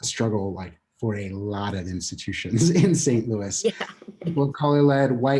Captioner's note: laughter